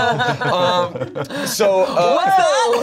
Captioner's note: everyone laughs